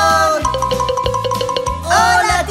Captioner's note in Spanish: Sonido de campana